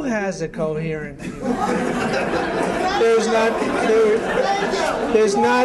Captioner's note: laughter